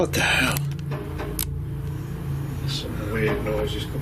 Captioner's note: loud knocking